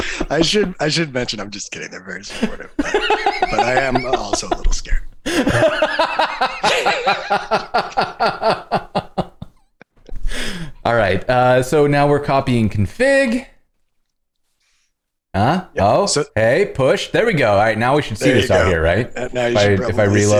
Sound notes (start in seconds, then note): 7.8 laughter